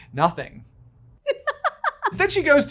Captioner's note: laughing